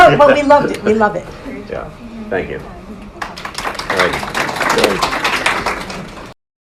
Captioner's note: audience claps